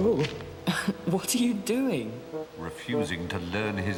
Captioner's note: chuckling